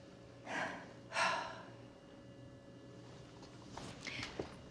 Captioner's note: both exhaling